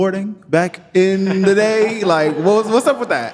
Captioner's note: audience laughing